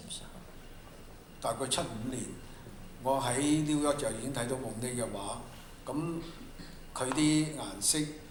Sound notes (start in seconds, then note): 0.0 Mandarin; 2.4 Cantonese